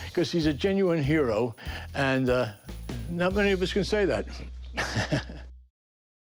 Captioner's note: chuckles